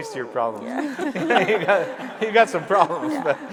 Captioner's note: audience laughing